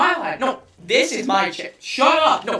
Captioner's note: double voice